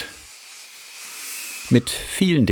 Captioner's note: hissing